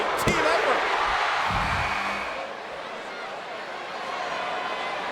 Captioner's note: crowd cheering